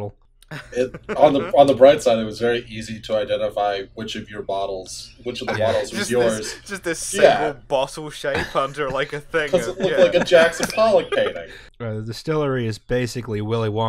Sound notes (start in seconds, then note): 0.5 laughter